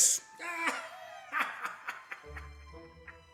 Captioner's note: mocking laughter